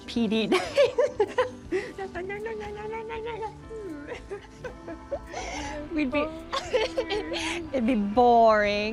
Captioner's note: laughs